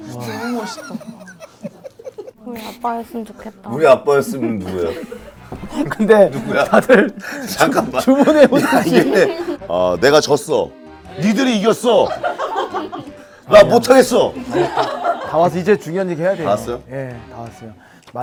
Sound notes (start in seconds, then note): 4.2 haha